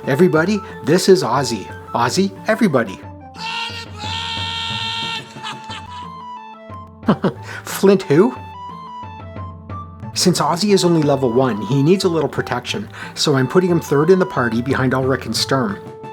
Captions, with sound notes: Everybody — this is Ozzy. Ozzy… everybody. All aboard... ha, ha, ha, ha [chuckles] Flint who? Since Ozzy is only level one, he needs a little protection. So I’m putting him third in the party, behind Ulrich and Sturm.